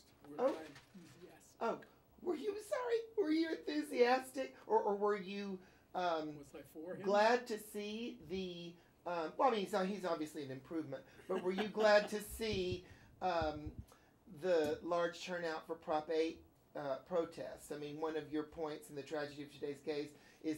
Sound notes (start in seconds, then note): 11.2 Kramer laughs